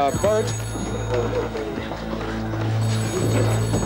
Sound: phone ringing

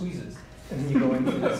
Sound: laughter

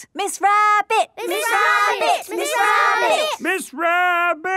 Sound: all chanting

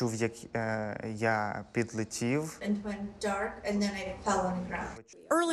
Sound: speaking a foreign language

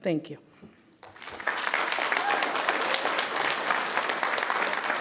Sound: people clapping

